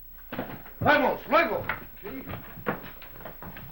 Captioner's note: speaking spanish